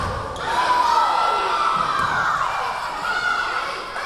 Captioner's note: yelling